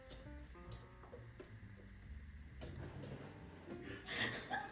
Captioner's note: A small laughing fit hits 😂